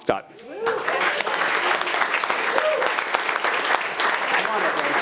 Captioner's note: attendees applauding